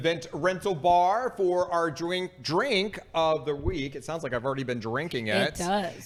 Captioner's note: stutters